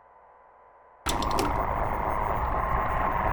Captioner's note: tape deck turns on